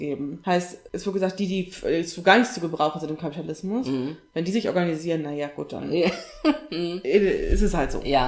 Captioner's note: sarcasm